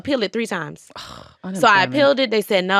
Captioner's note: scoffs